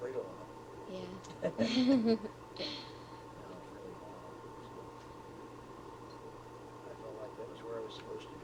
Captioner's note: both laugh